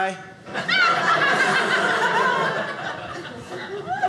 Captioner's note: audience laughing